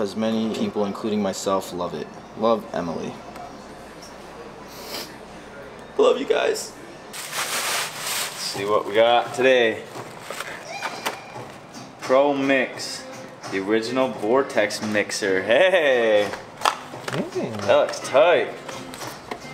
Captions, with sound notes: "because many people, including myself, love it. "Love Emily." (sniffles) Love you guys. - See what we got today. Pro mix. The original vortex mixer. Hey. That looks tight.